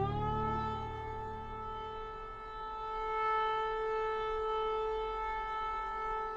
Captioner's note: air raid warning